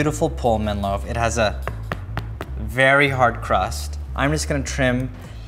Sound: thumps bread

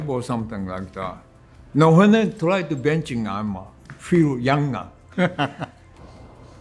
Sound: laughs

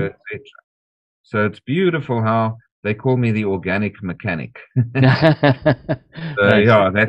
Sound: laughter

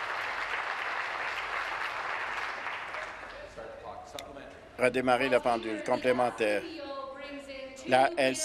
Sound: applause

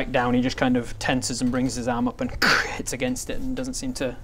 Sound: krrch

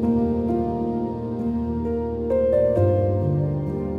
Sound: swirling glass

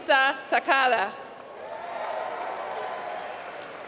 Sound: applause

